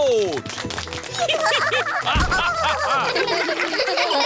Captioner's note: applause; all giggling